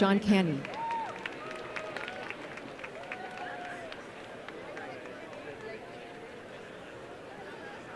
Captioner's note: applause